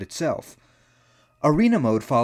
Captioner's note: inhale